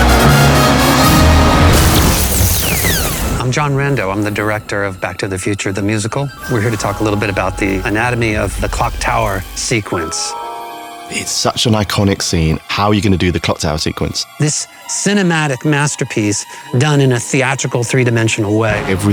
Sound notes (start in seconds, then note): 2.0 lightening crashing; 9.8 mystical music